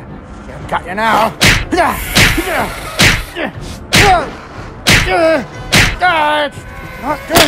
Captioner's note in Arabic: أصوات صفعة متكررة